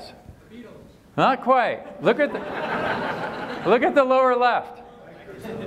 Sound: laughter

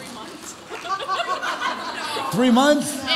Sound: audience laugh

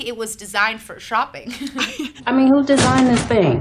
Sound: both laughing

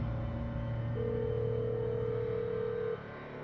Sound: ringing

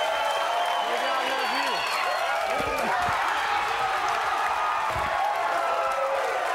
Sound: audience cheering

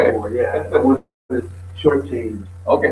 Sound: laughs

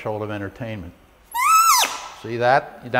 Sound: squeaking Noise

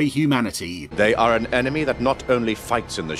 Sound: sinister voice

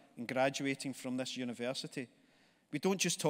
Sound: none

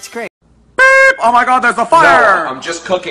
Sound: beep

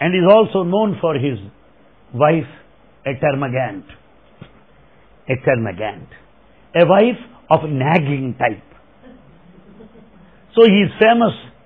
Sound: laughter

